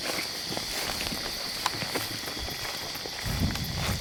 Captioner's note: insects chirp